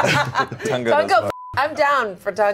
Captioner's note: beep